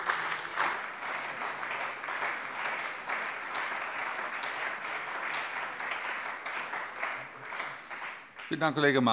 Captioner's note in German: Beifall bei dem BÜNDNIS 90/DIE GRÜNEN und der CDU